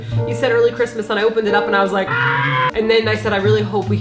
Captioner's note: dinosaur noise